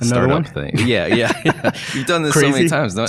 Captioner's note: laughs